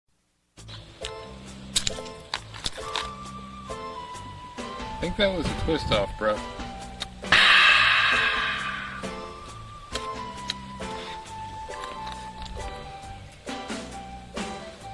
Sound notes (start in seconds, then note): 7.3 belches loudly